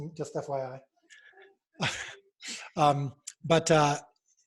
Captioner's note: laughing